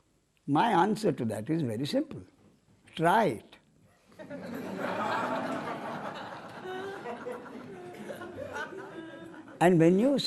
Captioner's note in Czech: smích